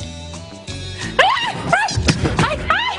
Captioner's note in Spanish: gritos